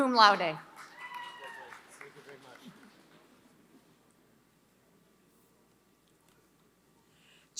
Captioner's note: applause